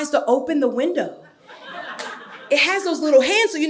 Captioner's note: audience laughing